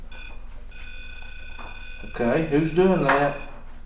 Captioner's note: beeping